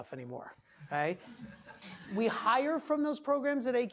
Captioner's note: class laughing